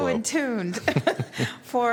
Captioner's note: laughter